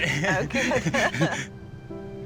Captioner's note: both laughing